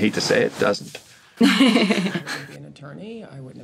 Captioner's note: laughing